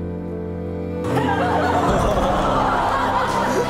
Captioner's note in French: rires